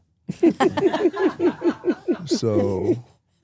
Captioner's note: both laugh